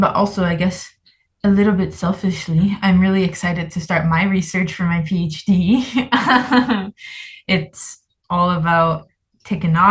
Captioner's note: laughs